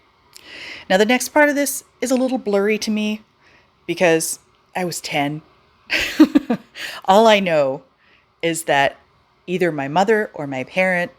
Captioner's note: laughs